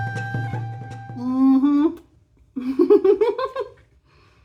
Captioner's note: laughing